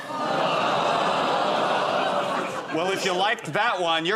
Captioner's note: audience groans